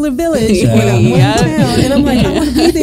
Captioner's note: both laughing